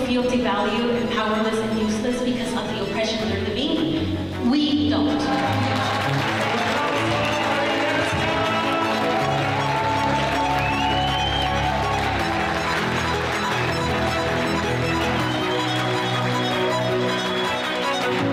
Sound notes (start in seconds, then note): 5.6 crowd cheers and applause; 5.6 energetic classical music